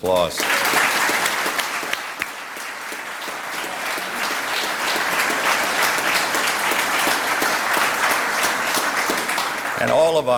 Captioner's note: applause